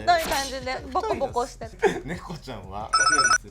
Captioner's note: sexual slapping sounds